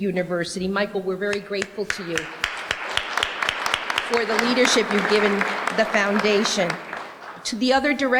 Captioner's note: applause